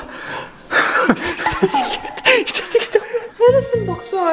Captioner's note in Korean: 웃음